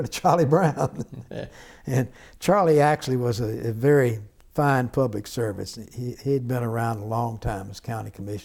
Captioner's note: laughter